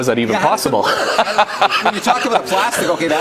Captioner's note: laughs